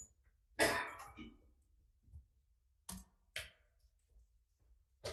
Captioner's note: person coughing